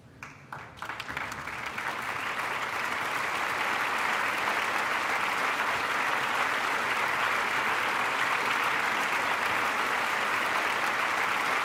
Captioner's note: applause